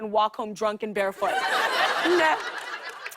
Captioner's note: laughter